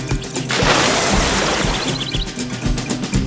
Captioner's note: water squirt